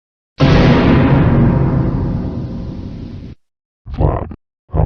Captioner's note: GoAnimate/Vyond Scary Sound Effect